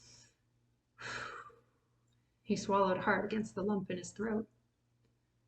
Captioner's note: sighs